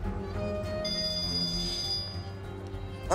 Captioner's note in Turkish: Telefon çalıyor